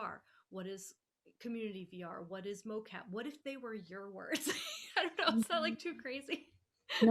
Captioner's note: laughing